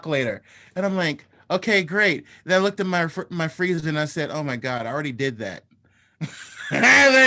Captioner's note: laughter